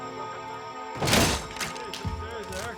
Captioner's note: door breaking